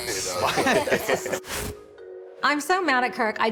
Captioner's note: laughter